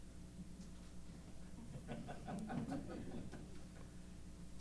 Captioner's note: laughter